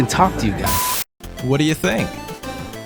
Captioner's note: static, beep